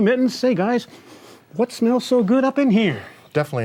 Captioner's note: sniffing